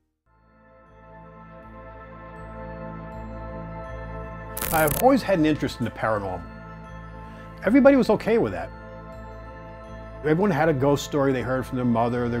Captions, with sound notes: [suspenseful music builds] [television static crackling] - I've always had an interest in the paranormal. Everybody was okay with that. Everyone had a ghost story they heard from their mother,